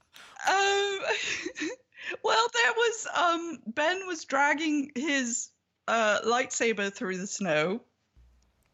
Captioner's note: laughs